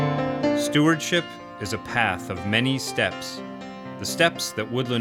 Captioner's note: voiceover